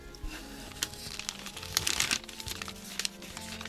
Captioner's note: paper rustling; pencil scratches